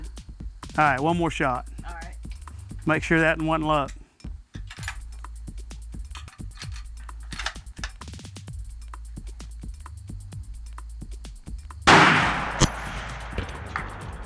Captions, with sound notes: - All right, one more shot. - All right. - Make sure that wasn't luck. (gun clinking) (gunshot)